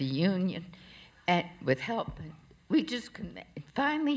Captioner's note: none